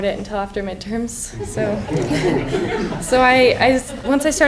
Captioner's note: laughing